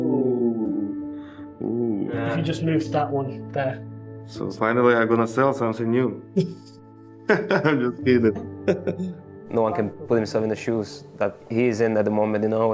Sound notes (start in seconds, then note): 8.6 laughing